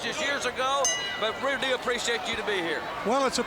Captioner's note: bell ringing